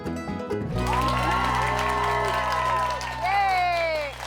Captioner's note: energetic banjo music; audience cheering